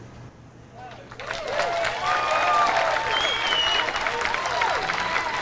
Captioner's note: audience cheers